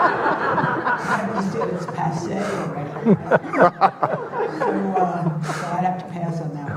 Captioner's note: audience laughing; murmurs